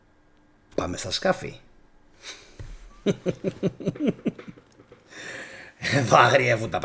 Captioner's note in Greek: γέλια